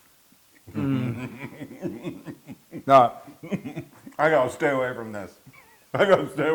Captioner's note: laugh